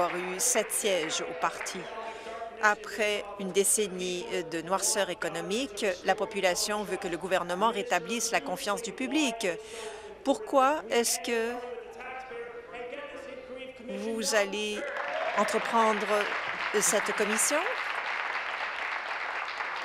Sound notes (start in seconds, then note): 0.0 applause